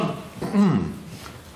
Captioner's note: clears throat